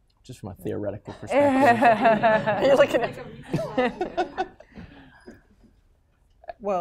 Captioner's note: laughter & Inaudible Remark